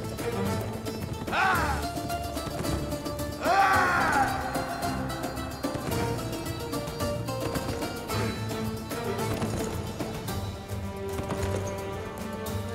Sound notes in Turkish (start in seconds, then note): 1.2 Bağırma sesi; 3.3 Bağırma sesi